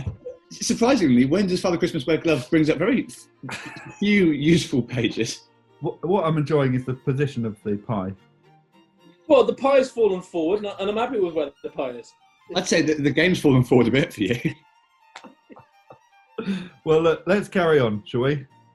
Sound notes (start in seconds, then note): 15.0 laughing